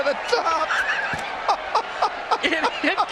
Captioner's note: laughter